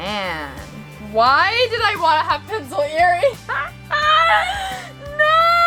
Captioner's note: laughs